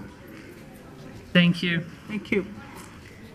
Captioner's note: woman's Voice